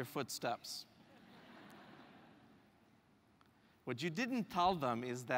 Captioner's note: laugh